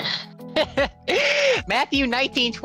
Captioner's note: laughs